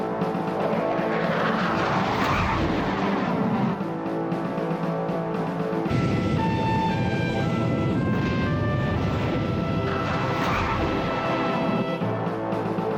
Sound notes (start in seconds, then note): 2.3 engines whooshing